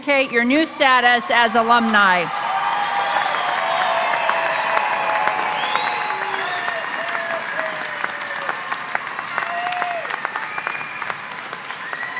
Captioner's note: applause